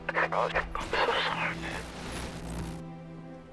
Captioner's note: static crackling